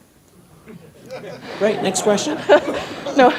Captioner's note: audience laughs